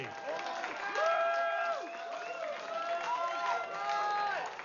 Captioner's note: vítores y aplausos